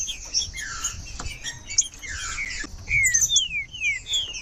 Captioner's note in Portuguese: trinca ferro cantando